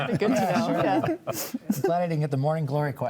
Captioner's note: panelists laughing